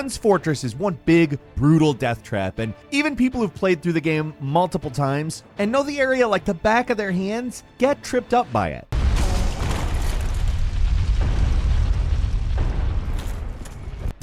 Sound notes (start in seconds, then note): 9.0 loud banging